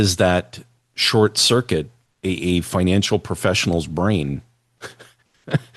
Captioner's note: laughter